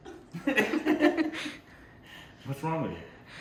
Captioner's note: laughing